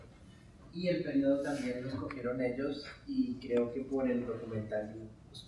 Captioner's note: speaking in Spanish